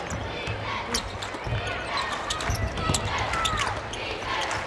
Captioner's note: crowd